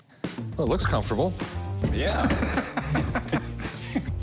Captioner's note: laughs